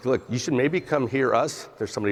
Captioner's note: phone ringing